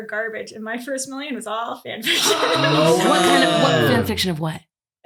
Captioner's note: laughs